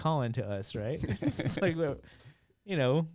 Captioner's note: laughing